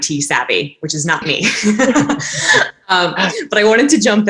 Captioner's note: laughing